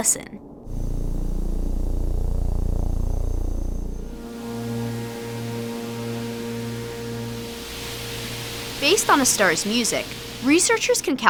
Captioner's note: low, static humming noises, increasing in pitch